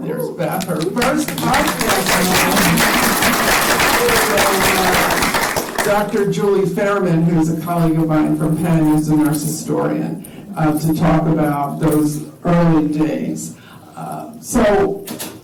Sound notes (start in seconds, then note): 2.4 applause